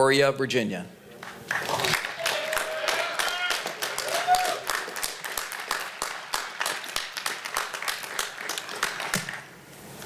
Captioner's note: applause